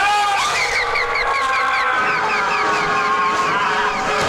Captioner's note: Chooper screaming; Connie screaming